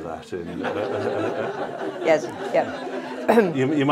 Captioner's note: laughter